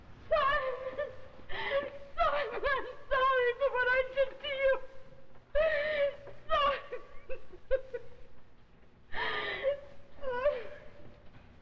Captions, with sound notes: Simon! Simon, I'm sorry for what I did to you! Simon! [sobbing] [sobbing]